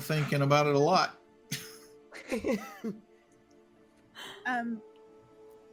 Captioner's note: laughing